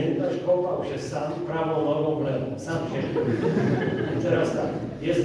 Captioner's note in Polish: Śmiech z sali